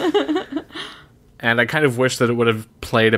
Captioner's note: laughs